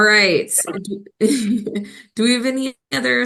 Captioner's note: laughing